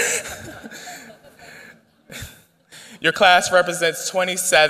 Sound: laughter

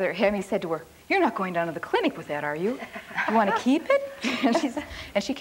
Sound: laughs

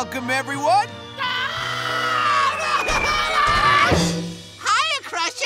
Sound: Crusher screaming

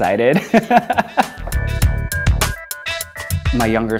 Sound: laughs

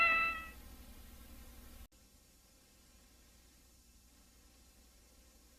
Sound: VHS static

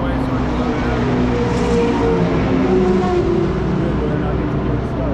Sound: car accelerating

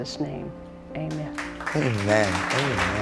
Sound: applause

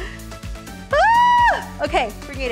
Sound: screaming

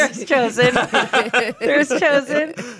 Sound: everyone laughs

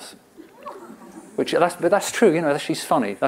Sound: laughter

